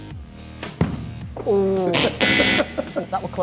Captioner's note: laughing